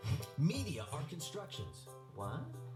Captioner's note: voiceover